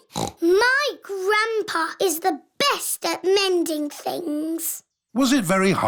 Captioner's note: snorts